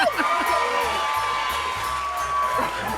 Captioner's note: cheers and applause